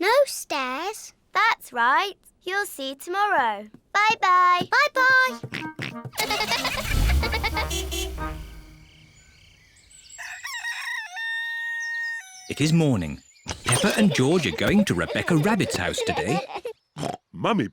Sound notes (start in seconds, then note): 5.6 horn toots; 6.1 giggling; 10.1 rooster crows